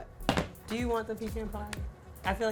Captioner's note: tray thumps